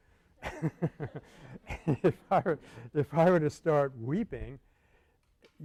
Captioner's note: laughter